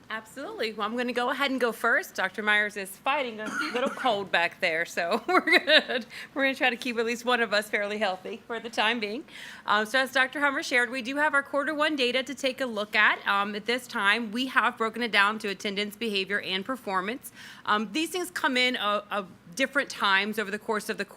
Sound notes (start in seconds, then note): 5.1 laughing